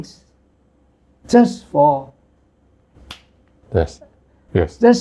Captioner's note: a snap of a finger